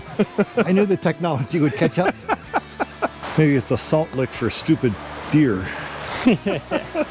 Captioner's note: laughter